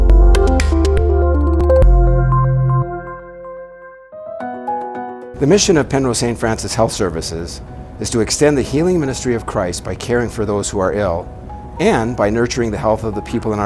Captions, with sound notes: (upbeat music) - [Voiceover] The mission of Penrose Hospital Health Services is to extend the healing ministry of Christ by caring for those that are ill, and by nurturing the health